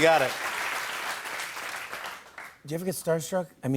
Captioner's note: applause